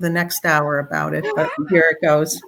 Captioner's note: laughter